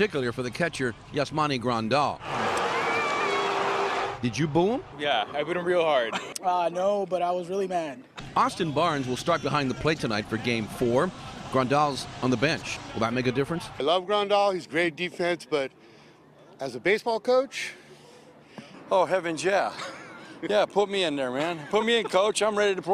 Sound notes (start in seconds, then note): 2.3 cheers and applause